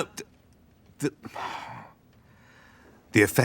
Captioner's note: exasperated sigh